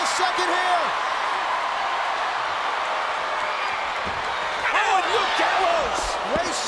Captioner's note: applause